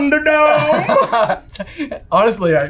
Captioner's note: laughing